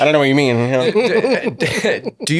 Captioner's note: laughing